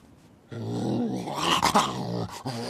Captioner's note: vicious snarling